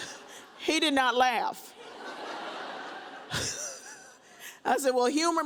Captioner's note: audience laughs; chuckles